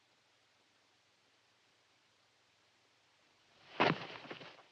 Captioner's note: no audible dialogue